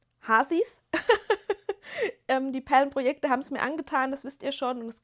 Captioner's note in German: gelächter